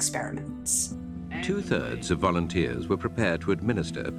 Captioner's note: soundbite of archived recording